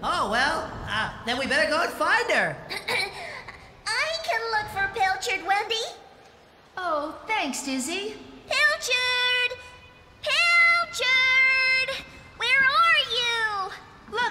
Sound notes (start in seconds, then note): 2.9 clears Throat